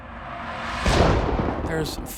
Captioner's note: thunder rumbles